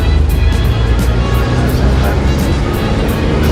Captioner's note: street sounds